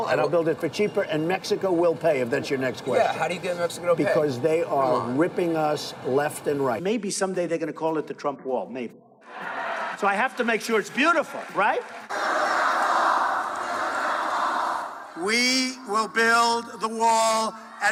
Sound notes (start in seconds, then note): 12.4 crowd